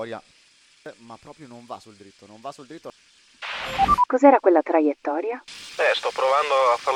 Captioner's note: team radio